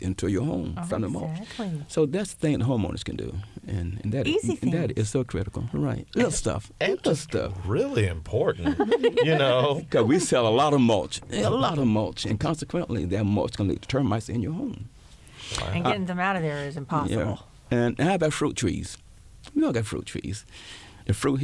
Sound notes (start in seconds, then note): 8.6 laughter